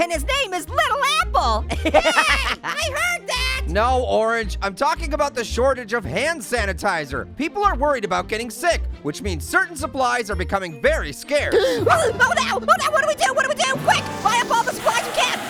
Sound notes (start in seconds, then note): 11.5 gasps